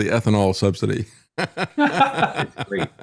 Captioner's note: laughing